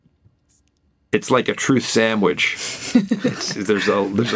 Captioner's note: laughs